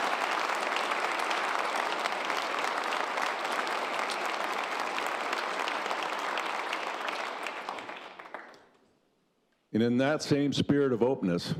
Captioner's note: applause